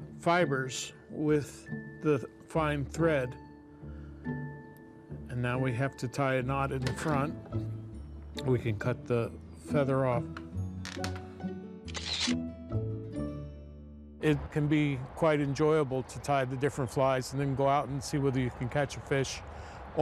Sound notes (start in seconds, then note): 11.8 camera snapping